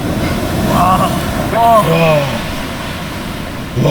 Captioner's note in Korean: 감탄